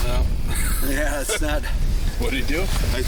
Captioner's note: crew laughing